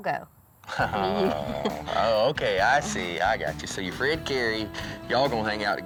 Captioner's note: laughs